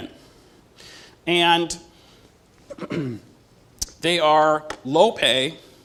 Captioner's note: cough